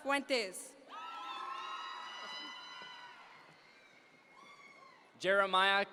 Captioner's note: audience members cheer